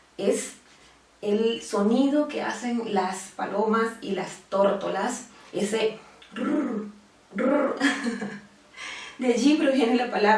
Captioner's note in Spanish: sonido de arrullo